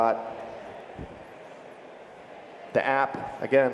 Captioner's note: crowd conversing in background